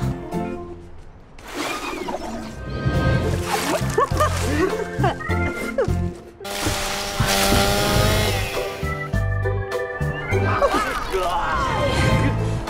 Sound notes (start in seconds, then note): 1.5 woman drowning; 6.4 chainsaw; 10.2 rope and groaning